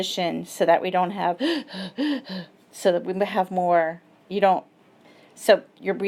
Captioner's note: breathes rapidly